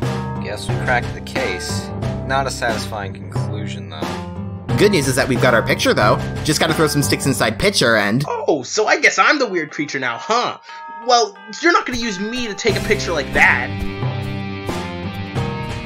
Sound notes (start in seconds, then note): none